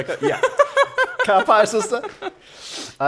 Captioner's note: laughter